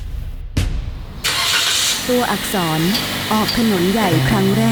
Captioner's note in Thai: เสียงสตาร์ทรถ